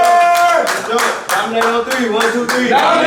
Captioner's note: group cheering and yelling